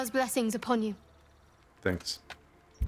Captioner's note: silence